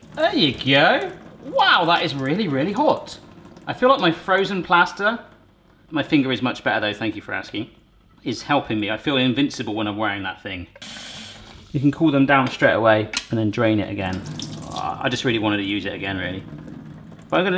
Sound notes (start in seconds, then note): none